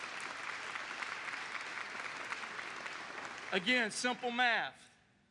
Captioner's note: applause